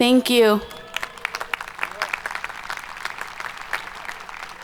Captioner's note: audience applauding